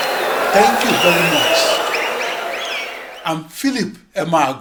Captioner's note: wild applause and cheering for 22 seconds